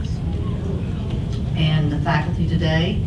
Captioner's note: audience murmurs